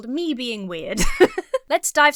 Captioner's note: laughs